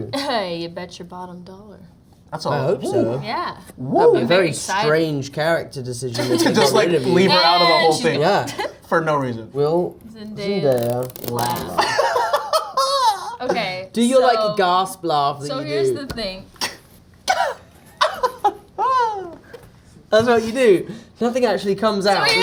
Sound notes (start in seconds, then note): 0.3 laughs; 11.7 Jacob laughing; 17.9 Tom and Jacob mimic Zendaya's laugh